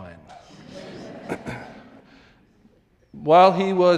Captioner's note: audience laughing